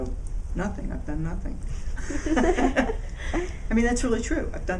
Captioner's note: laughs